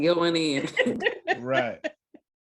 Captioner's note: laughter